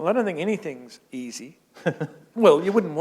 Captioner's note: chuckle